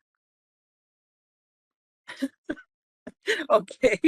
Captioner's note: laughing